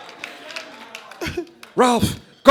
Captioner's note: doc brown voice